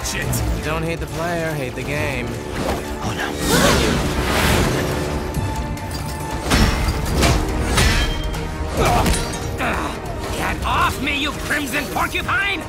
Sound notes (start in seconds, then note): 6.4 mallet clanking; 9.4 grunting, groaning